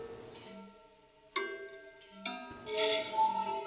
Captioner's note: plates chime